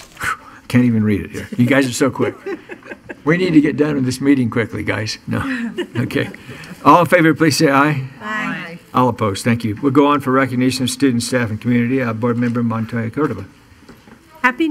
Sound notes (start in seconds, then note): 5.4 laughing